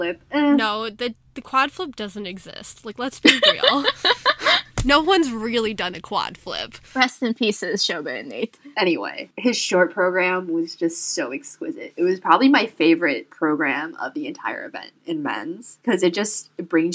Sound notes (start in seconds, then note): 3.2 hosts laugh